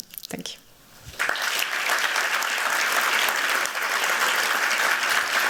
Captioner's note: applause